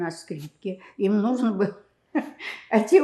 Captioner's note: laughing